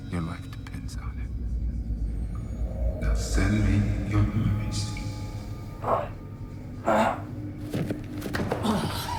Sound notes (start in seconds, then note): 6.0 Mark grunting